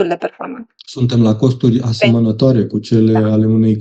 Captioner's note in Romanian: voce dreasă